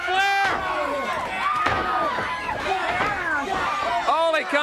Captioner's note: crowd cheering